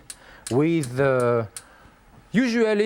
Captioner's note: igniter clicks